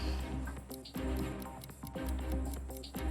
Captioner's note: watch ticking